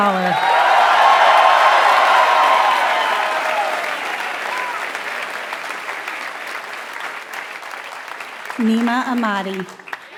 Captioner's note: applause